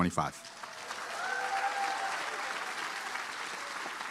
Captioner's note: applause